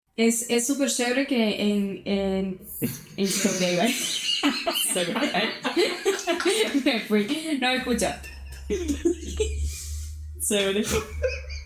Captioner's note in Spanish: risas